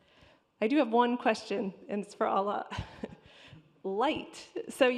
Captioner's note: chuckles